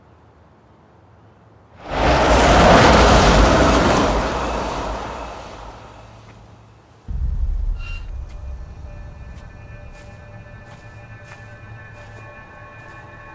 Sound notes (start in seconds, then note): 1.8 car revving; 10.7 tense music